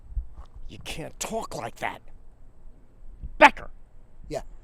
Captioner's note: scoffs